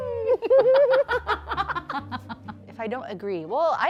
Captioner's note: laughing